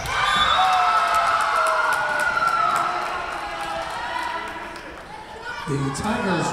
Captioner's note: Tigers cheering; whistle blowing